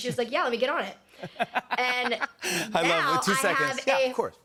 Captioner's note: laughs